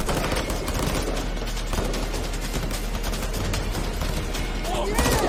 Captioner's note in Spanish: Disparos